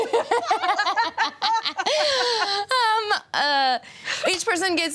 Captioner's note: laughter drowns out speaker